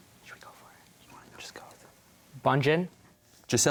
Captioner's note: whispering